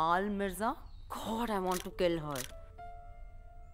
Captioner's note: Clicks